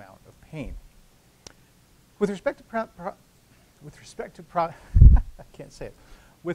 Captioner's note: laughter